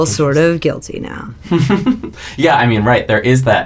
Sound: laughter

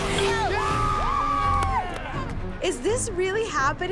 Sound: cheering

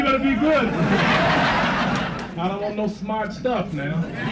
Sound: crowd laughs

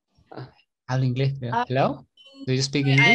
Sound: she speaks English

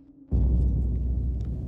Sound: dramatic thud

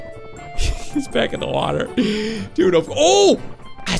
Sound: laughs

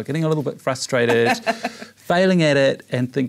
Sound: laugh

